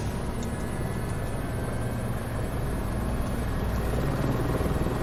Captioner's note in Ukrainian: гурчання лопатей вертольота